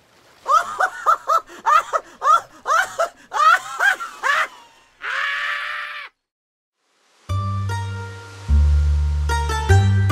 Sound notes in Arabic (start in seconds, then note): 2.6 ضحكة مجنونة